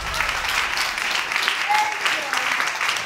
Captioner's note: audience applauding